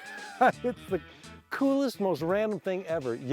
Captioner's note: laughter